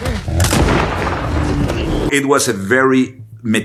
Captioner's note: bear grunting; gun banging